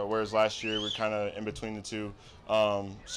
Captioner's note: crowd member whistles